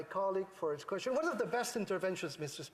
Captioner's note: speaking French